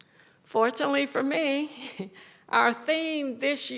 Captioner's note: chuckles